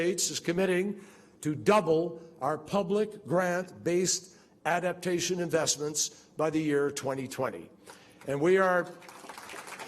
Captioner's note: applause